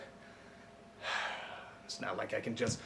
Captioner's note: sigh